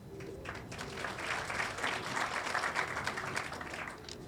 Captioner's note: audience applauding